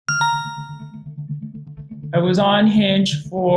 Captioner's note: transition dinging; suspenseful music